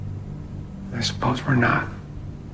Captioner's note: voiceover